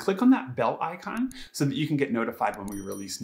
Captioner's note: bell icon clicks